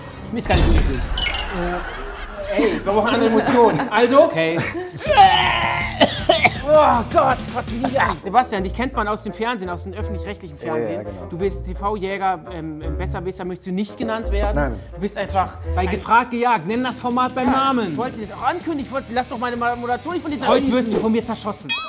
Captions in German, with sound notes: Ist gar nicht so eklig. Äh! Ey, wir brauchen andere Emotionen, also ... Okay. (Würgelaute) Oh Gott, kotz mich nicht an! Sebastian, dich kennt man aus dem öffentlich-rechtlichen Fernsehen. Ja, genau. - DU bist TV-Jäger. Besserwisser möchtest du nicht genannt werden. Nein, du bist einfach ... - Bei "Gefragt – Gejagt", nenn das Format beim Namen! - Ich wollt das ankündigen!